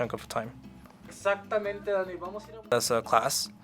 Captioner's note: speaking Spanish